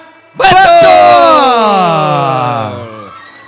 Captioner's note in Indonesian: berteriak